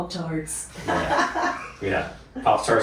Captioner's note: laughing